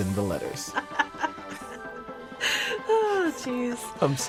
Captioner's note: laughing